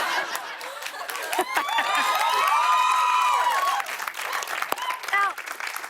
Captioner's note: laughter; cheers and applause